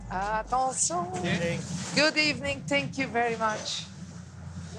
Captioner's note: in English